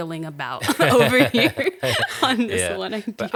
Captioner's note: both laughing